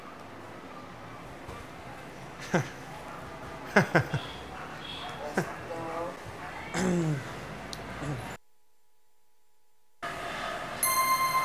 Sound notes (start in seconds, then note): 3.6 chuckling; 6.7 clearing throat